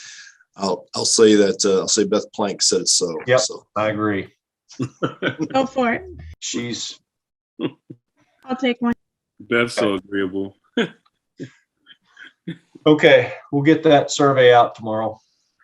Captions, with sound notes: - I'll say that. (speaking faintly) - I agree. (laughing) - Go for it. I'll take one. - Beth's so agreeable. - Okay, we'll get that survey out tomorrow.